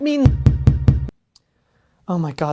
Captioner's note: thump thump thump thump